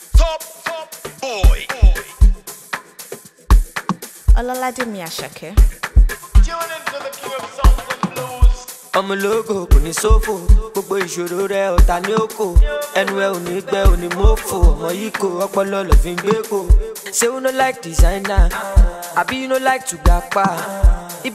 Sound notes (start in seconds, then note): 4.8 woman speaking foreign language